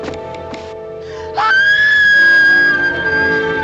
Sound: Julia screams

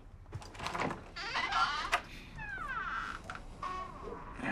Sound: door creaking

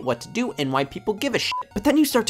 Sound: beep

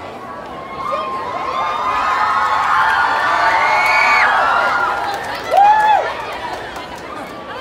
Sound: crowd cheering

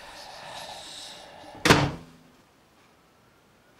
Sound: ghostly whispering; door slam

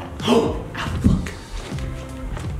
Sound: gasps

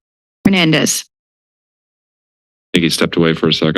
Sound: silence

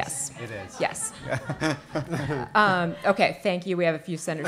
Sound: audience laughing

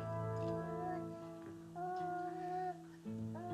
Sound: baby cooing

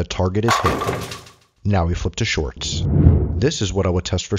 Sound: pins rattling

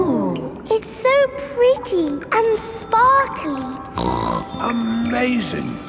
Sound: snorts

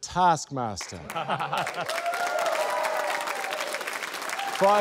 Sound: laughter, cheering, applause

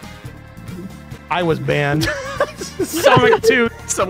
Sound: laughs

